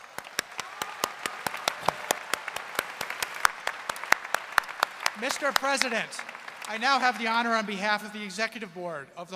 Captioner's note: applause